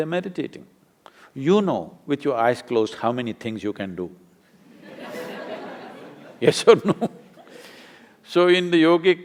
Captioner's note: laughter; laughs